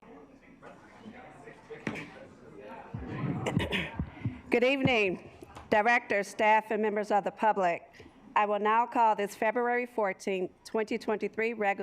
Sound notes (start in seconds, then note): 0.0 assembly chattering; 3.4 clears throat